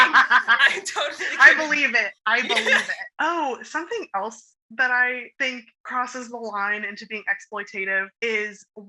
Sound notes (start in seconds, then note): 0.0 laughing; 3.0 normal voice